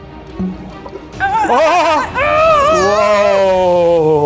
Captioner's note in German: Spannungsvolle Musik; Angestrengte Laute